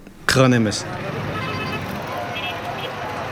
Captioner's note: horns honking